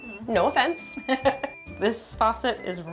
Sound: chuckles

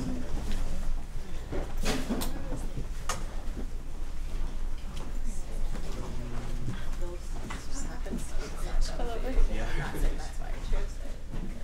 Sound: chatter

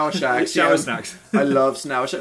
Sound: laughing

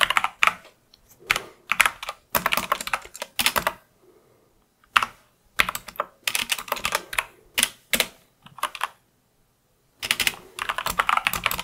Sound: typing

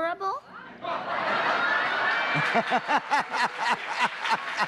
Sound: laughter

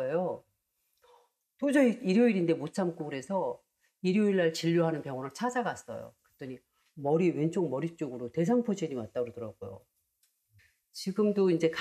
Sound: voiceover

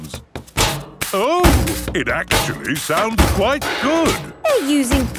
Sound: rhythmic clanging

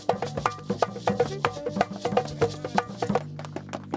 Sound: speaking in foreign language

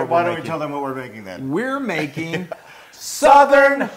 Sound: laugh

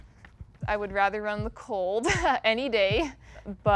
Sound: laughs

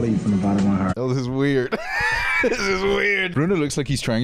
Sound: laughs

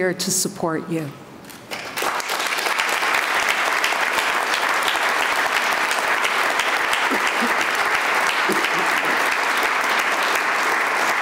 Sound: applause

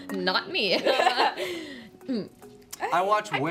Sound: laughs

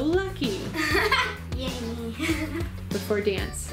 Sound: giggling

